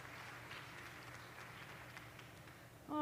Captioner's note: cheers and applause